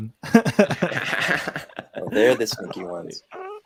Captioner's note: all laughing